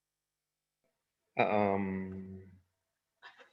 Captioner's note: chuckles